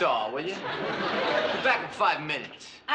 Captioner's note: laughter